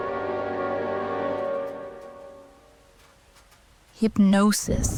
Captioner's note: rumbles of thunder